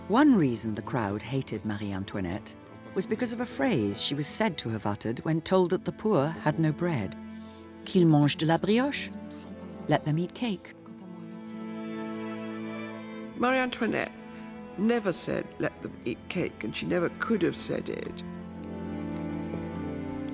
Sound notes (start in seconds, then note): 8.0 narrator speaking in French